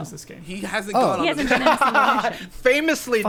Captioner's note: pat; Jarvis laughing